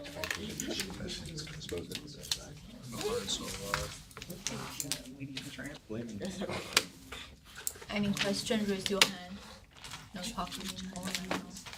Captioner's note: students murmur